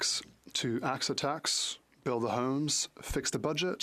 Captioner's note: speaking French